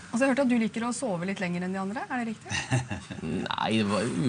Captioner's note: laughs